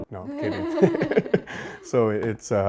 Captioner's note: laughs